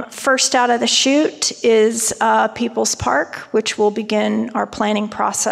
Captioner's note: none